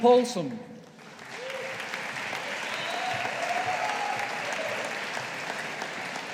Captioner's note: audience applauding